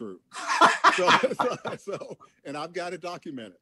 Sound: laughs

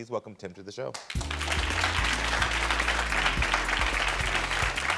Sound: audience applauding

